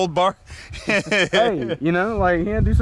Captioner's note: Dave laughing